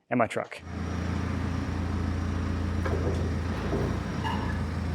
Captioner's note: machinery rumbles